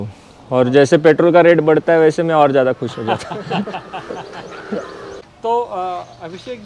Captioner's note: laughter